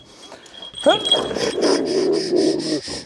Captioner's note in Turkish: Hırlama sesleri